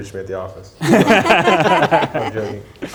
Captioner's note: laughter